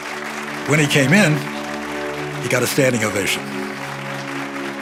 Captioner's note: applause continues